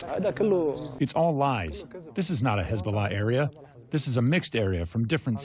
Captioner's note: through translator